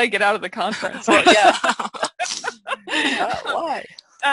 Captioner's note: laughter